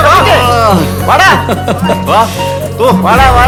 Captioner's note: Shefeek laughing excitedly